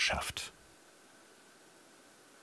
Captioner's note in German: Leises Surren